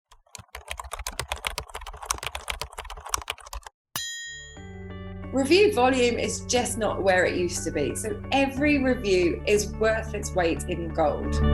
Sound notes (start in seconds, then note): 0.0 typewriter; 4.0 bell